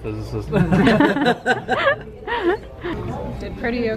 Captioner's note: laughing